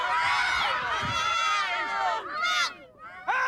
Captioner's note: everybody shouting